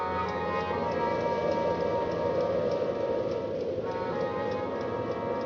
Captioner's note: wind Continues Whistling